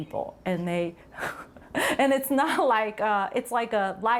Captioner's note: chuckles